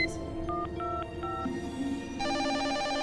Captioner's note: dialing; phone ringing